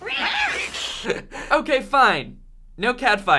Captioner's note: laughing